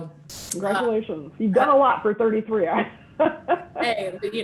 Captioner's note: laughing